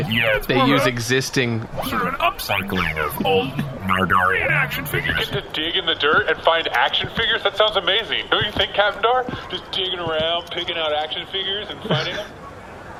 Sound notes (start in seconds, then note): 5.6 excited